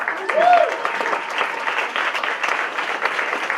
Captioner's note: applause